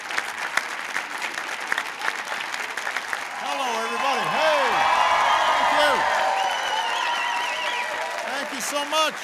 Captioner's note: applause